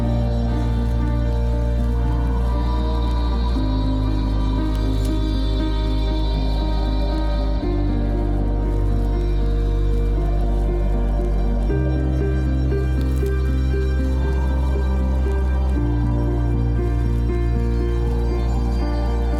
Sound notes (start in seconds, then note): 13.5 stirring music continues; 13.5 water lapping continues